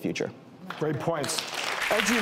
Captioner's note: audience applause